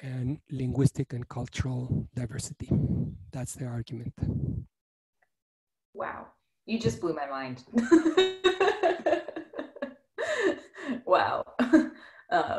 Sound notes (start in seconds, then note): 8.1 laughs